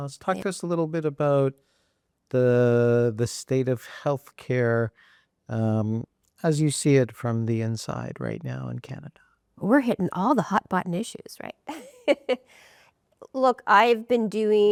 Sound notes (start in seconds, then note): 12.4 laughs